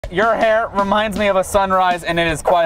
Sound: voiceover

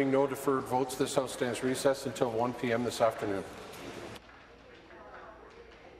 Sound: applause

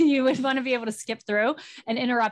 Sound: chuckles

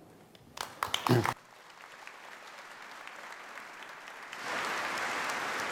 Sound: audience applauding

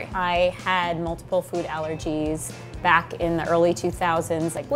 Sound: none

